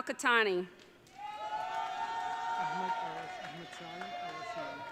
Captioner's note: audience cheering